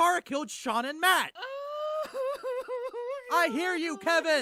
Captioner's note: cries